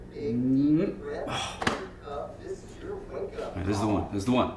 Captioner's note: Jeff groans